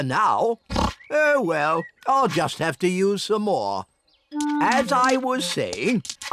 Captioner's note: oinks